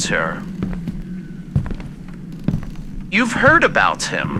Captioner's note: walking in upstairs hallway fx